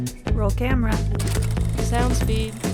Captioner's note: camera whirring